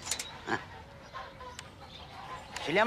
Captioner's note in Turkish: Kapı açılma sesi